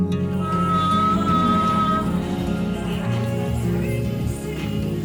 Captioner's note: moaning